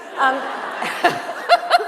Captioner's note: laughter